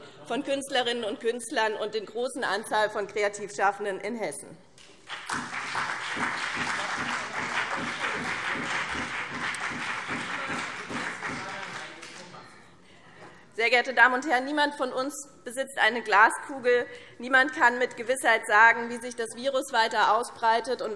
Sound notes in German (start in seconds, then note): 4.8 Beifall BÜNDNIS 90/DIE GRÜNEN und CDU